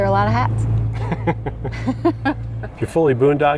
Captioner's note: laughing